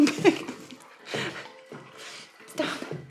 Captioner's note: laughing